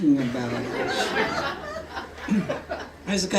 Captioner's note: laughter